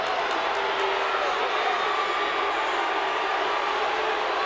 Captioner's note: crowd booing